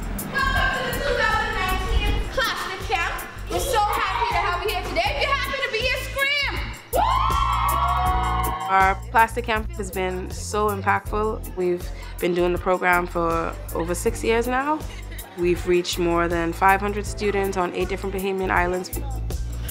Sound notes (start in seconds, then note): 6.4 kids scream; 14.7 laughing